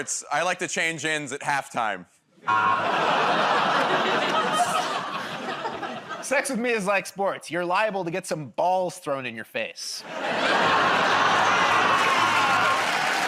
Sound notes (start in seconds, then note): 2.4 laughter, buzzer; 10.3 laughter, buzzing